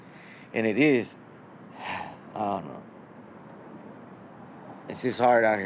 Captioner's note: sighs